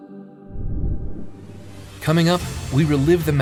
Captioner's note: graphics whooshing